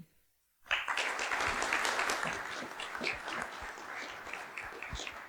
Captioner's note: applause